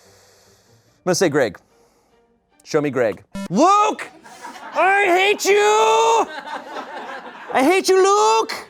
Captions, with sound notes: I'm gonna say Greg, Show me Greg. (electronic boop) Luke, I hate you! (people laugh) I hate you, Luke!